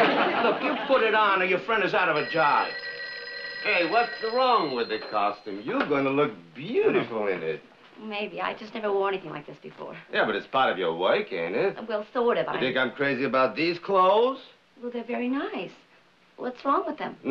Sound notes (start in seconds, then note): 1.6 phone ringing